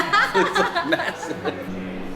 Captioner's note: laughs